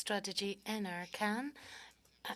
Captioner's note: speaking French